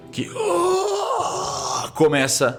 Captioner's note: grunting